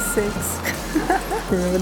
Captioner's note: laughs